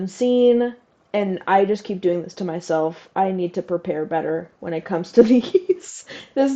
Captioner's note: laugh